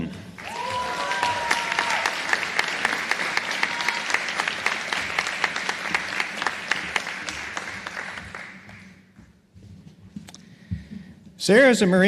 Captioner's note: applause